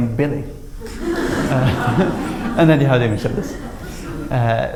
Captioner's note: laughter